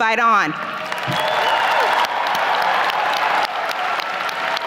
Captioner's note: audience applauding